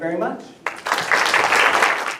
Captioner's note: applause